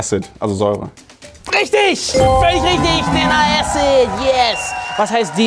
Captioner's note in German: Jubel, Applaus